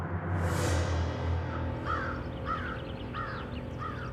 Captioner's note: bird cawing